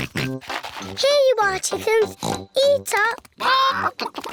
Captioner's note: oinks